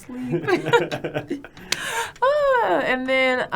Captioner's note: both laughing